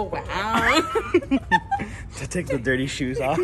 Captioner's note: both laughs